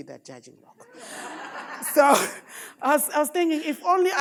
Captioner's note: audience laughing